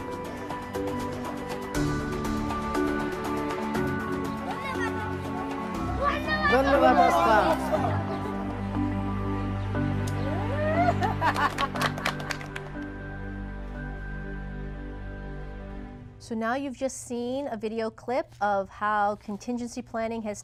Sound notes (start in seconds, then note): 5.8 foreign language; 11.2 applause